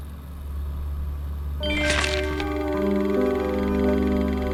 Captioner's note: computer chimes